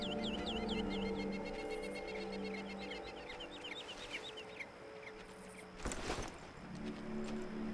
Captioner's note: birds chirping